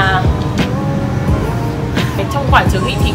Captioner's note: the sound of the speaker in the supermarket lmao